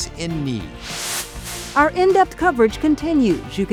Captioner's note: screen hisses